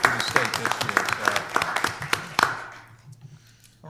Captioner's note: applause